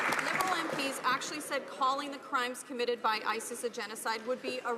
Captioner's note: some Applause